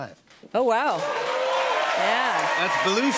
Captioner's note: cheers and applause